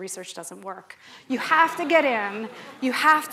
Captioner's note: laughter